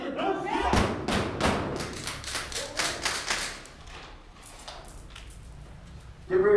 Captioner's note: gun shots fired